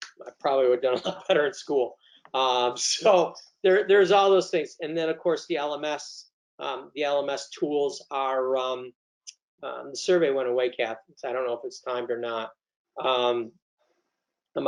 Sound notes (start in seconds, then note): 3.0 laughs